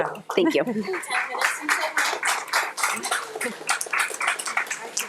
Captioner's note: audience applauds